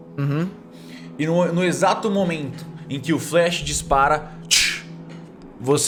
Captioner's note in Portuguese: tsh